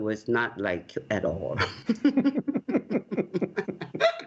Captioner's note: laughter